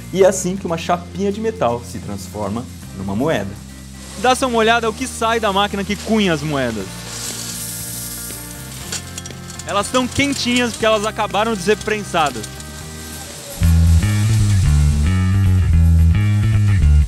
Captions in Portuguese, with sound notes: E é assim que uma chapinha de metal se transforma numa moeda. Dá só uma olhada no que sai da máquina que cunha as moedas! Elas estão quentinhas porque elas acabaram de ser prensadas. (barulho de moedas caindo) (música agitada de fundo)